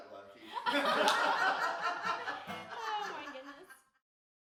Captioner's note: group laughs